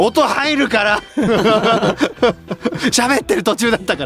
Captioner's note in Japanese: 笑い